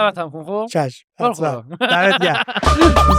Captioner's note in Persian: خنده